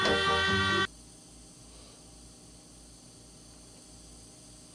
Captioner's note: ventilator hissing